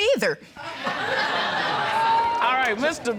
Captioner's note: audience laughing